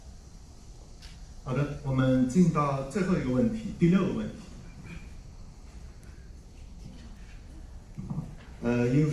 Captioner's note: something in another language